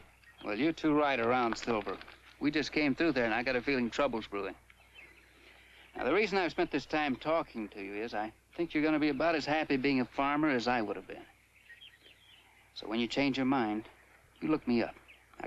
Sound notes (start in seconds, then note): none